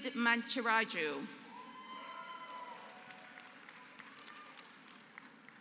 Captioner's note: applause